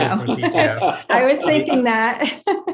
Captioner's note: laughing; laughs; laughing